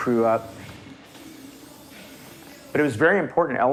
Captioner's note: spray can hissing